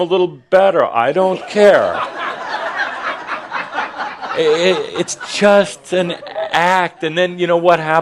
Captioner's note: laughter